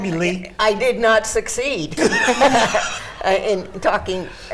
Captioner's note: laughs